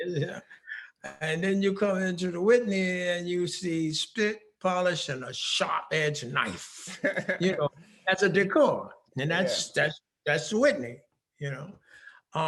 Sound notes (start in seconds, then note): 6.8 laughing